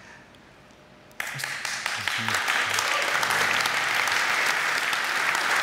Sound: audience applaud

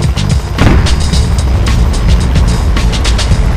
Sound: text as explosion echoes

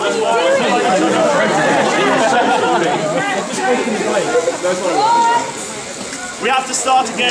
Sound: laughing and chatting

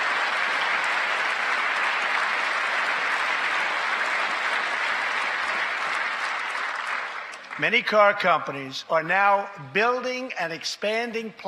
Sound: applause

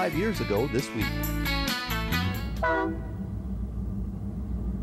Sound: train horn

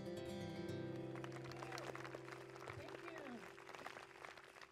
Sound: audience applause

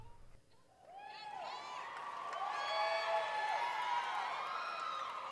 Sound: cheering

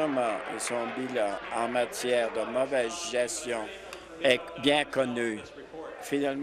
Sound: applause

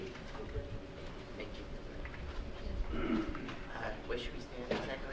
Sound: audience murmuring

